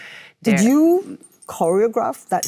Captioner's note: none